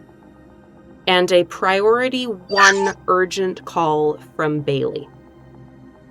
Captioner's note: omnitool chirps